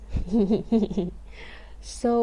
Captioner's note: giggling